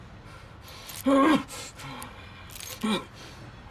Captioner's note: Bao grunts